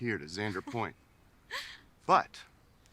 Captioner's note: Bree laughs